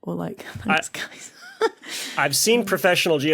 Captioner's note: giggles